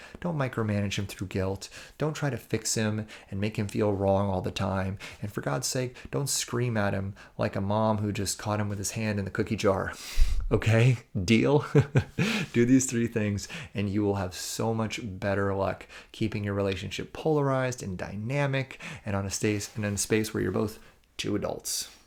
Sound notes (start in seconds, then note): 11.7 chuckles